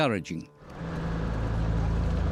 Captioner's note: motor rumbling